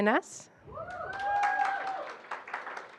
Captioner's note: applause